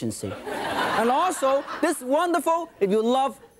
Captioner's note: audience laughing